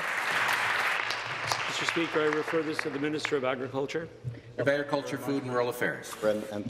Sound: applause

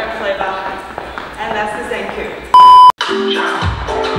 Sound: beep; african music

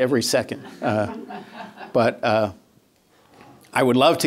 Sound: laughter

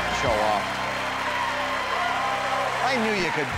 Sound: cheering; laughing and clapping

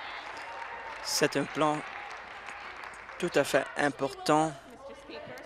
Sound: applause

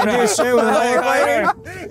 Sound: laughing

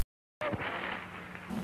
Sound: TV static

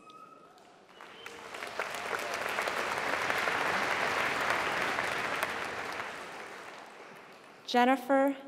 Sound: applause

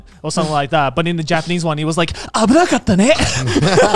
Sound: foreign language

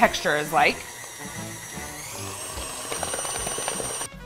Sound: mixer whirring

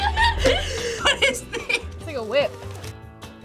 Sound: laughs; group laughs

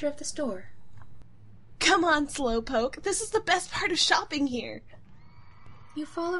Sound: workshop Ambiance dies out, Gladiator Stadium Background Noise Begins

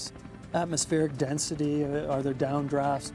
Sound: voiceover

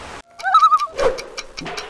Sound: loon call

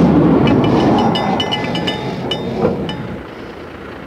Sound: truck engine; cow bell sounds from sheep herd; truck engine idles

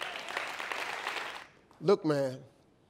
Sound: audience clapping

